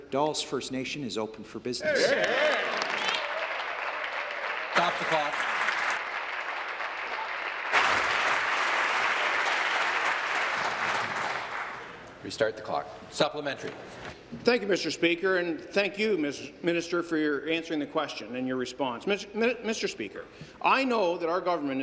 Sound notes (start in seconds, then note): 6.4 applause